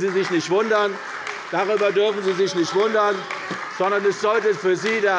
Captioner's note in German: Beifall bei der CDU - Zurufe von der LINKEN